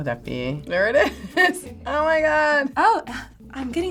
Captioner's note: chuckles